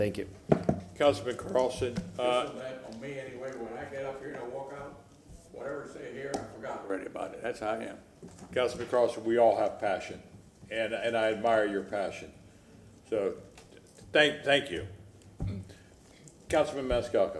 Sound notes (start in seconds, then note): 11.3 off microphone